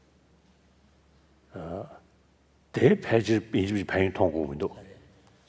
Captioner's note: foreign language